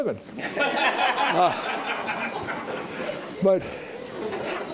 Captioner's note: audience laughing